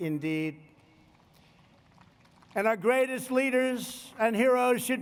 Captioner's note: applause